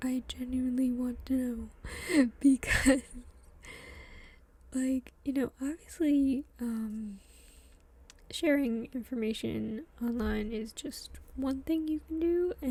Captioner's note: laughs